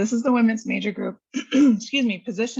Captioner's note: coughs